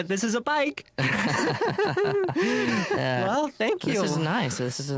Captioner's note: both laugh